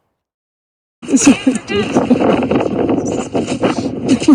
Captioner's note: wind whooshing